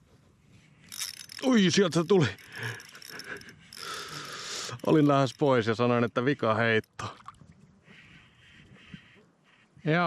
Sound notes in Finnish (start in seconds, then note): 3.8 huokaus